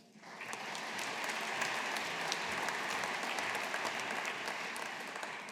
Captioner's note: audience applauding